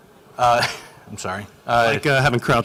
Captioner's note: laughs